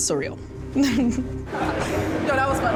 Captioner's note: laughing